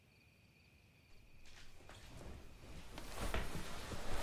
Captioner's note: footsteps approach